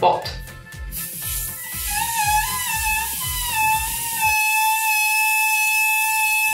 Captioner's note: balloon hisses; balloon whistles